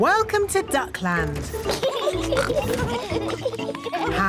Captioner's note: both giggling